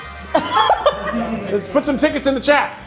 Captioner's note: laughing